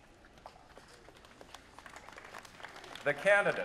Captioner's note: applause